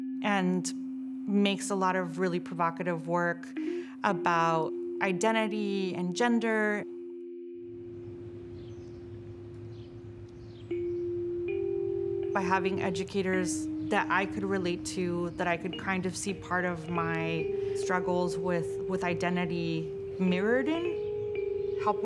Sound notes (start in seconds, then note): 8.5 birds singing; 11.1 soft instrumental music